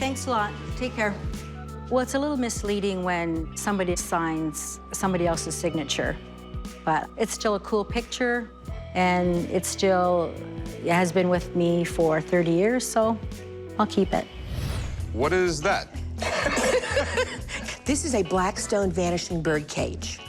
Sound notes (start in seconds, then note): 16.2 laughter